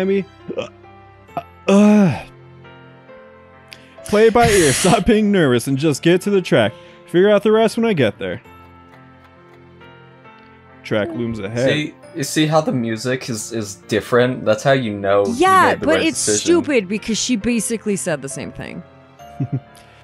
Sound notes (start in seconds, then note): 0.5 burps; 4.4 laughs; 19.3 chuckles